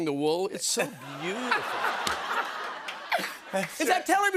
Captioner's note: laughter